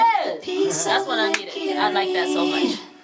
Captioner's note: hands clap